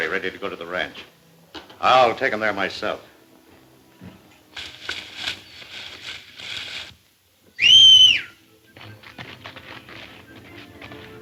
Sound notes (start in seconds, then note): 7.5 loud whistle